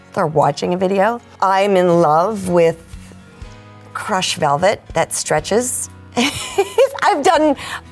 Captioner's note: laughing